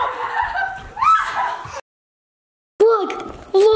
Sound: shrieks; screams and laughs

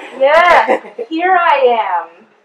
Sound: audience laughs and cheers

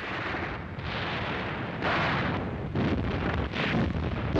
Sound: artillery firing

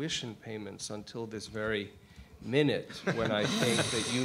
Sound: laughs

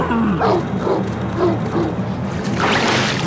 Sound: barking

